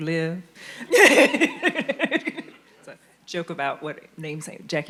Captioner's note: panelists laughing